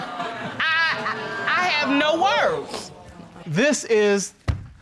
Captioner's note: audience exclaiming